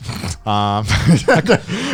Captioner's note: both chuckling